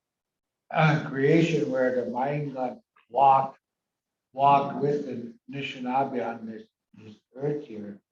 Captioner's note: foreign language